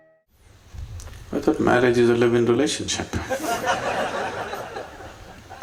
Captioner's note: laughter